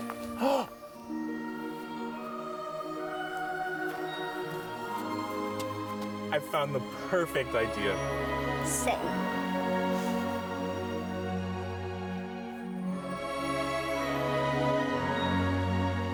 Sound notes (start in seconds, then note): 0.4 gasps; 2.5 bright magical music; 11.0 bright magical music